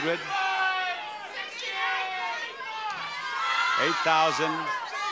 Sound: audience shouting numbers

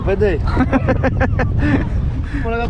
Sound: laughs

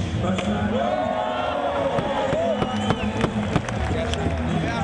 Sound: crowd goes wild

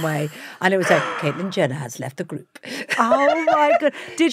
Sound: Kate laughs; laughs

